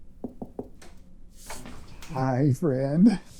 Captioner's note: quick knock